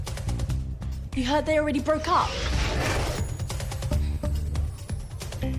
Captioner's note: magical buzzing sound